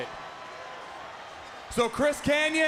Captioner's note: crowd chatter